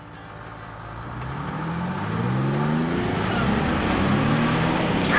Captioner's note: vehicle rumbling